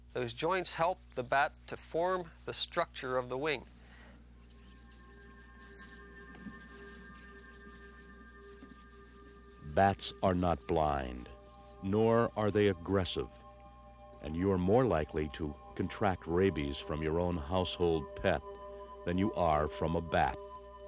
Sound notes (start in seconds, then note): 4.6 bats chittering; 4.6 intriguing orchestral music